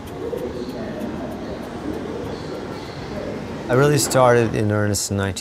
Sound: subway announcement

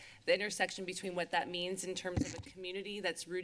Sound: none

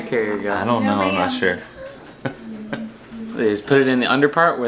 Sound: laughing

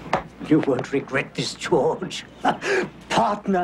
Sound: laughs

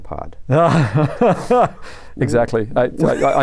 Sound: laughter

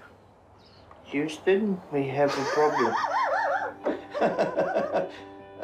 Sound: laughs

